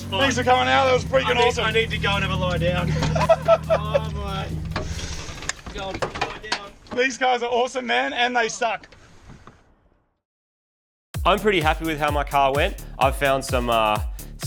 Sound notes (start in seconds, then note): 4.2 laughing